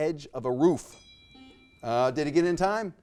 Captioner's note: bell chimes; buzzer beeps